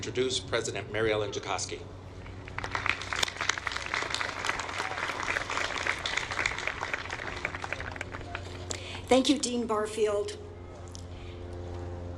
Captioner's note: applause